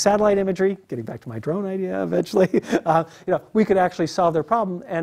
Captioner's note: laugh